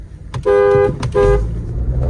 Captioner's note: horn honking